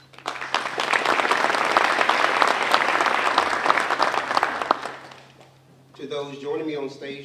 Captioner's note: applause